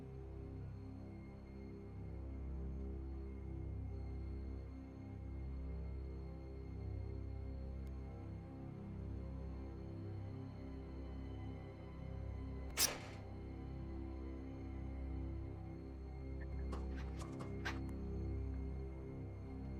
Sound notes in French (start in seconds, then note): 12.7 les épingles sifflent